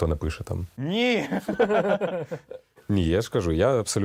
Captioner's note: loughting